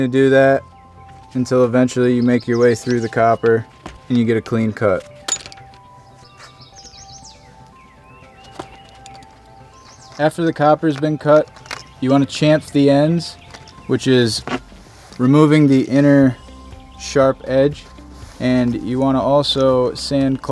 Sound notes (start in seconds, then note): 5.2 sound of metal hitting ground